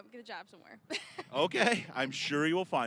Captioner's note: both laughing